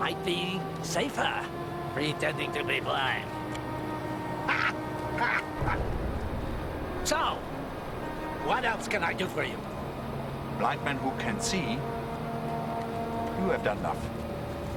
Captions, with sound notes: might be safer pretending to be blind. (laughs) So, what else can I do for you? - Blind men who can see, you have done enough.